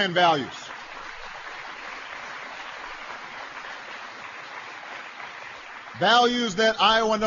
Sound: applause

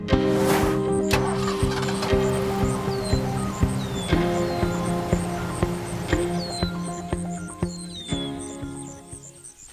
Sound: engine starting, birds chirping

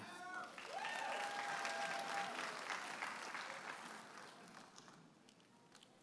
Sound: audience applauding and cheering

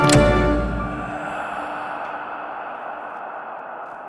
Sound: ghostly voice

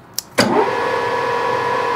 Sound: whirring

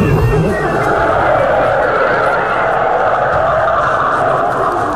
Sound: ghosts howling; suspenseful music

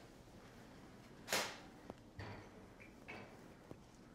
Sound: rolling pin thunks

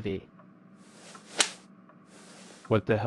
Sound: slap

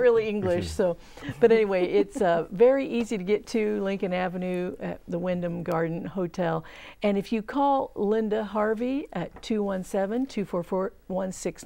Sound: laughing

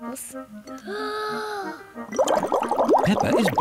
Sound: takes big breath

